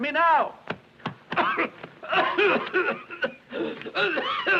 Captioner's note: coughing